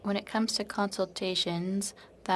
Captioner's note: speaking in French